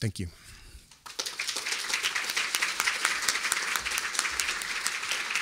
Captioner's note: applause